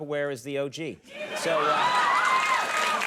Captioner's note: audience cheering